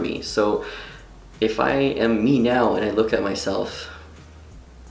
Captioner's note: inhales